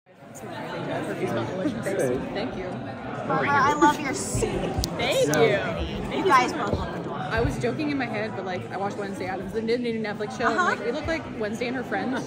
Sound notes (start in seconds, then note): 0.1 chatter